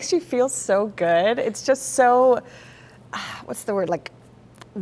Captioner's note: exhales